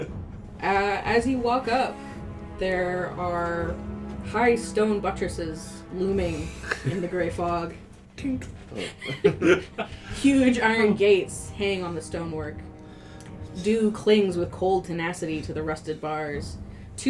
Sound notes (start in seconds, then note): 8.8 laughter